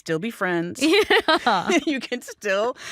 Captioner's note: chuckles